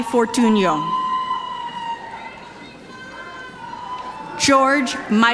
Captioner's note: audience cheering